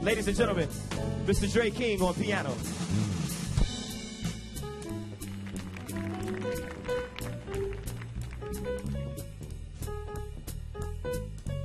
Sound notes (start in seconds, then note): 3.6 slow piano music; 4.8 audience applauding